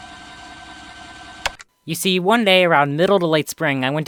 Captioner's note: TV remote click